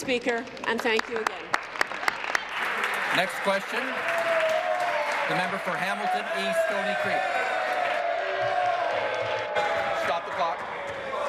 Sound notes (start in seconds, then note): 4.9 applause